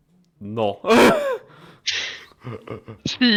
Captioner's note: small laugh